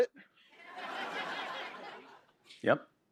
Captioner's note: laughter